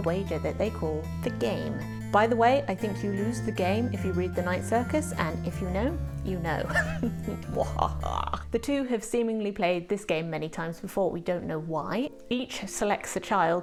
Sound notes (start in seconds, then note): 6.7 maniacal laughter